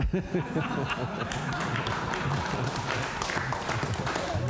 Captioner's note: laughter; applause